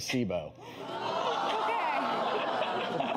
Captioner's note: audience reacting